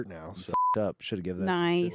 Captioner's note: beep